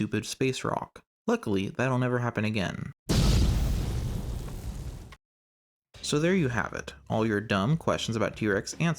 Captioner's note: explosion